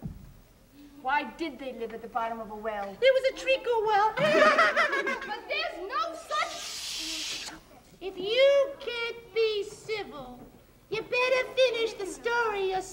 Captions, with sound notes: - Why did they live at the bottom of a well? - It was a treacle well! - But there's no such - (shushing) - If you can't be civil, you better finish the story yourself!